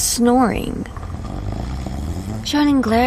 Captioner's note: loud, obnoxious snoring